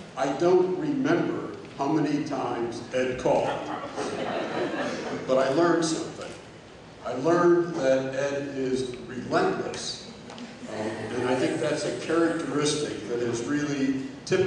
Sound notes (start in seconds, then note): 3.3 laughter